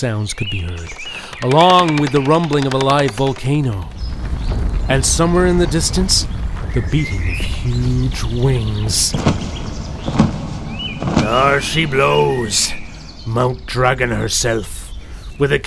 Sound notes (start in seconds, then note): 1.0 scuttling sounds; 10.9 wings, and a roar